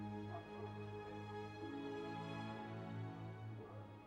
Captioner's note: dog barking in distance